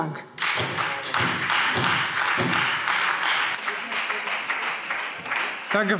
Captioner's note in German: Beifall Freie Demokraten und SPD